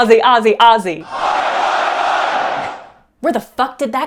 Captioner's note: many voices screaming in unison